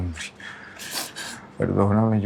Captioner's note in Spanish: Sollozos